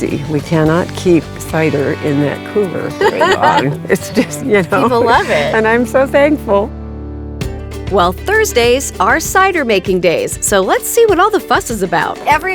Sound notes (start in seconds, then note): 2.9 laughing